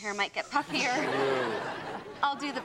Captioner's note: audience laughs